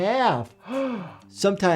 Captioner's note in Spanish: jadea